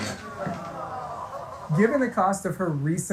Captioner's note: laughs